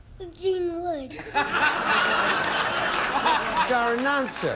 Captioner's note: audience laughing